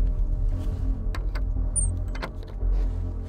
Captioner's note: low squeaking